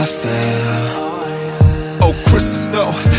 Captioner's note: stepping